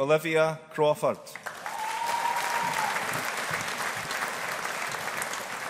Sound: audience applauding

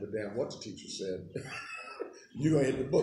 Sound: laughing

